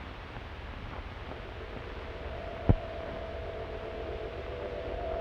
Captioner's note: magic whirs